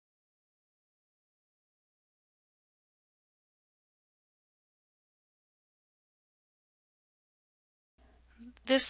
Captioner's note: silence